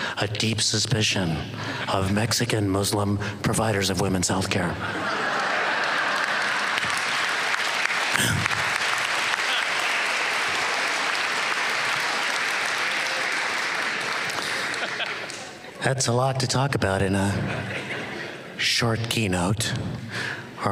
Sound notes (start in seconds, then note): 4.8 laughter; 6.5 applause